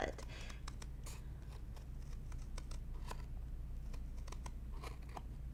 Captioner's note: scissors snipping